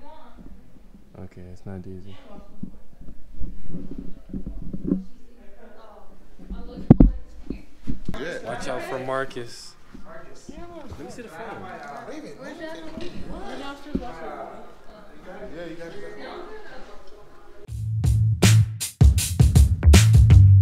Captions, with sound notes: Okay, it's not Daisy. - Watch out for Marcus. - Marcus? - Let me see the phone. - Wait a minute. - Right after lunch I'll go. (chattering) (hip hop music)